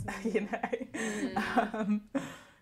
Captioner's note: laughs